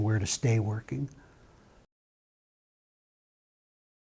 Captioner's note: silence